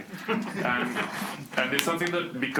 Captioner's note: students laugh